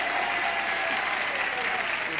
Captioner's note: cheering and applause